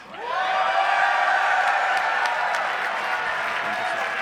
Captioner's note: cheering and applause